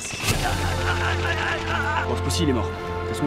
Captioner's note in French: hurlement de mort